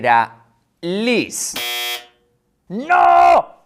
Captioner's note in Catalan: Alarma